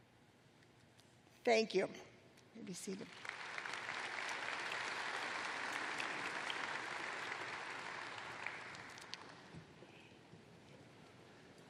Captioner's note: applause